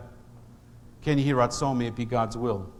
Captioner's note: speaking in foreign language